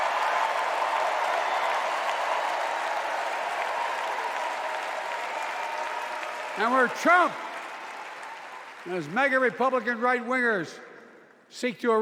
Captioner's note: cheers and applause